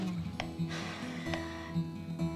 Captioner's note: sighs